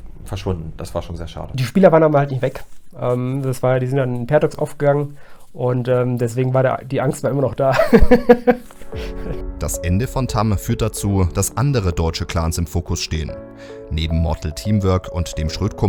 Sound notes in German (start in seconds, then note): 7.6 lacht